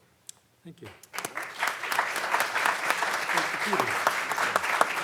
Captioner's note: audience clapping